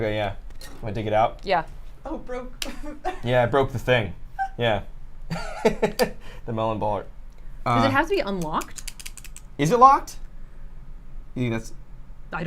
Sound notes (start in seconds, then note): 2.6 laughs; 5.3 laughs